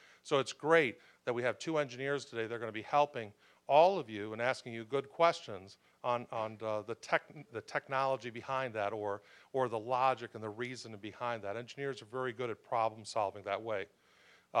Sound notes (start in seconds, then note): none